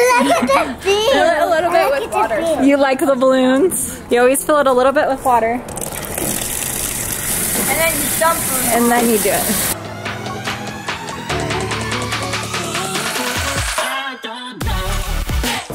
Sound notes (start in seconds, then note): 5.6 sound of water pouring; 10.1 upbeat music